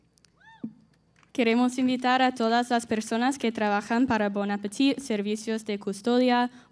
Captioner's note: speaking in Spanish